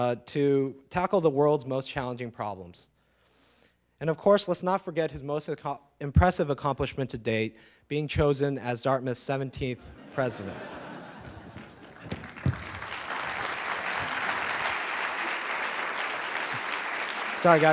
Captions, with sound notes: to tackle the world's most challenging problems. And of course, let's not forget his most impressive accomplishment to date, being chosen as Dartmouth's 17th President. (audience laughing) (audience clapping)